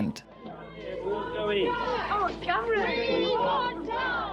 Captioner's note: crowd chatter